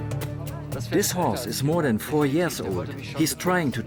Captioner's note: in German